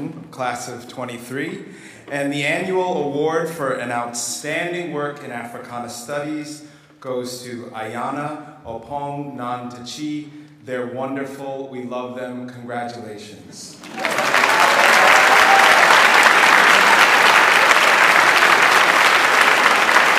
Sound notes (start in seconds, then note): 13.8 audience applauds